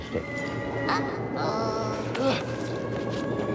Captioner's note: grunts